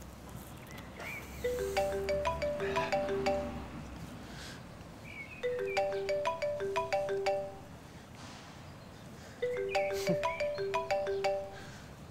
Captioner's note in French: Sonnerie de iPhone